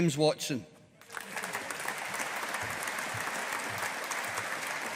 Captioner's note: audience applauding